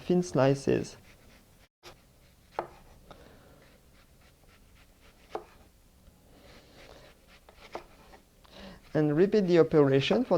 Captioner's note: slicing sounds